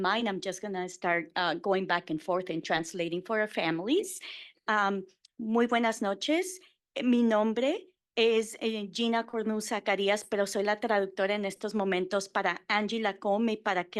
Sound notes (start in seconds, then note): 5.5 Spanish